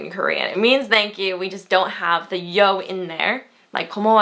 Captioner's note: foreign language